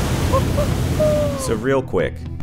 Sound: man cheering

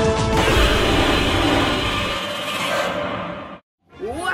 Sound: Godzilla roars

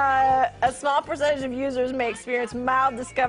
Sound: laughing

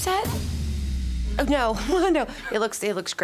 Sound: laughs nervously

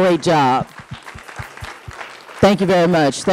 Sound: audience applauding

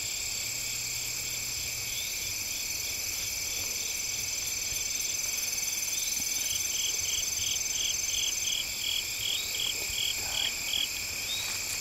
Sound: crickets chirping, breathing heavy

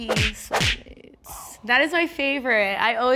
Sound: slapping sound effect

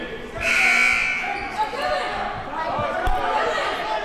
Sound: buzzer

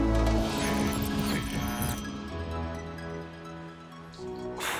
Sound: electronic buzzing; exhaling deeply

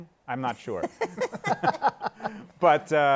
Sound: laughter

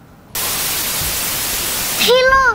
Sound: TV static

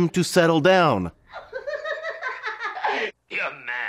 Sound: The Riddler laughs

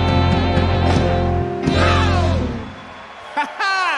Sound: audience cheer and clap

